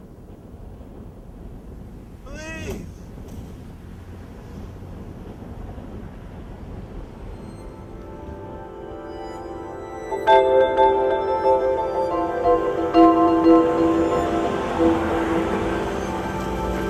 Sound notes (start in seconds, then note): 4.6 air whooshing; 8.2 somber music